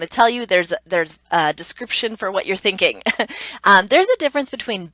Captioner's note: laughs